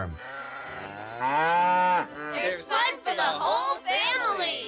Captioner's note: cow mooing